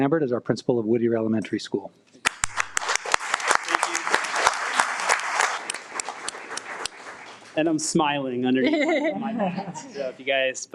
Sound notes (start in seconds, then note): 2.2 all applauding